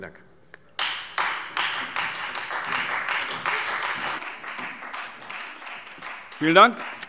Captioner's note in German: Beifall Freie Demokraten und vereinzelt CDU